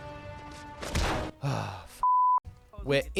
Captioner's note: sigh